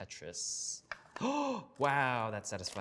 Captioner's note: gasping